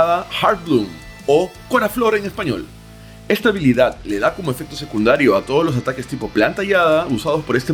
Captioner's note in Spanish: en español